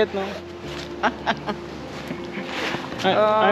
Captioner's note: chuckles